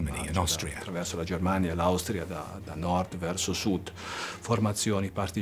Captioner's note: speaks in foreign language